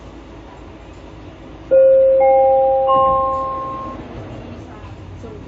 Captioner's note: doors closing Chime